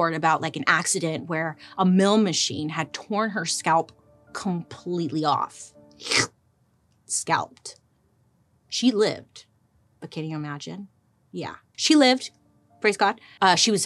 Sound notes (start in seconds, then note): 5.4 gulps